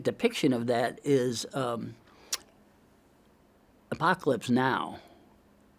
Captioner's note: tongue clicks